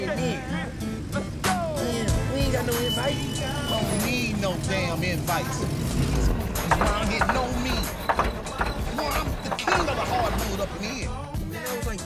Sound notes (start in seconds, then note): 1.7 car engine revving